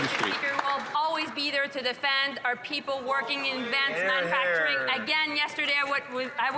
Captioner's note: cheering and Applause